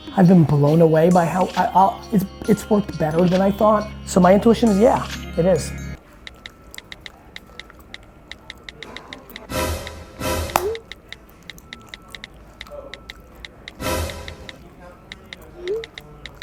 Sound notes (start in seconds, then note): 5.9 phone texting; 9.5 dramatic music; 10.5 phone texting; 13.8 dramatic music